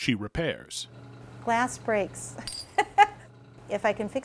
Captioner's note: laughing